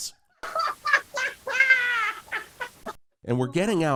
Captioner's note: laughs